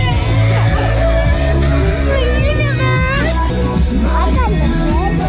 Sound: exclaiming

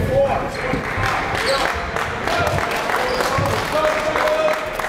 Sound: applauding

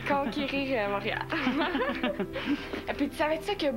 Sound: Rires

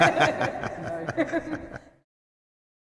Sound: laughing

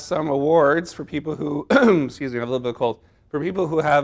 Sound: clears throat

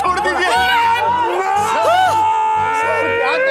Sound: screams

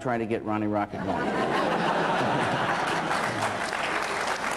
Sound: laughter, then applause

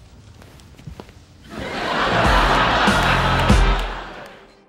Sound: background laughter

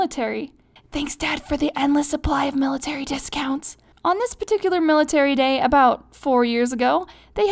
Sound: whispers

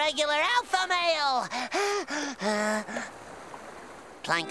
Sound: panting

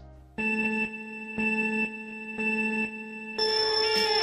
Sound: computer chimes

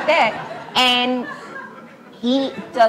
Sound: laughs

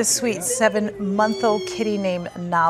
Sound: meowing

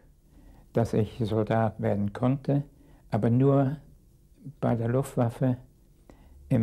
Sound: speaking in a foreign language

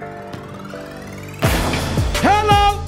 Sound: ball bouncing; ball dunking

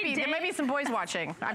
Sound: laughter

